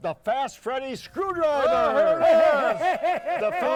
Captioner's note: all cheering